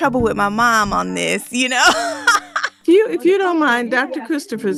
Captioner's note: laughs